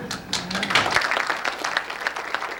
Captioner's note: laughs